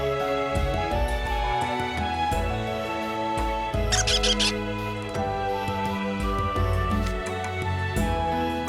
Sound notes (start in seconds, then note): 3.9 squeaks